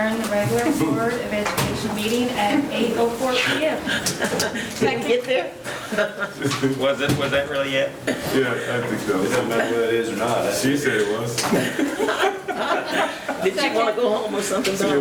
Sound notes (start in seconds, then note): 3.6 multiple people laughing; 11.4 all laughing